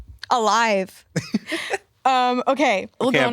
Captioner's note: laughs